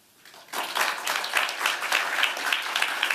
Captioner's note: applause